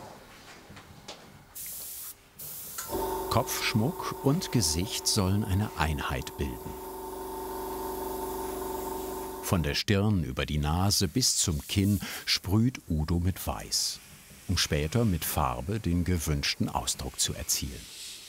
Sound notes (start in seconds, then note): 6.7 compressor whirring